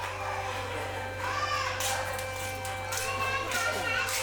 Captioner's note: babies crying